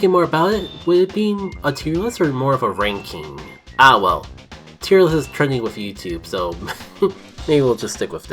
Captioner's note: light chuckle